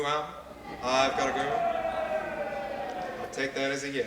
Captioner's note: cheering